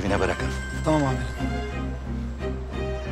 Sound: phone is ringing

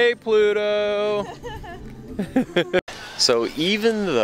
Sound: chuckling

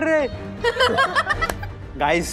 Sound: laughter

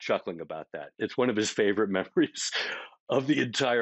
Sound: chuckling

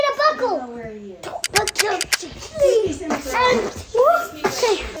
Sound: imitates buckling

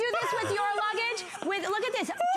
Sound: laughter

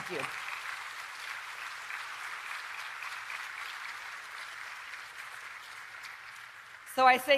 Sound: applause

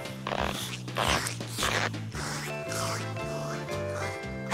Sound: slurping

